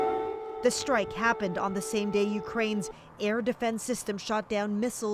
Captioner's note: sirens